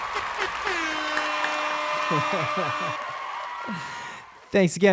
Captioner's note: audience cheers; air horn blares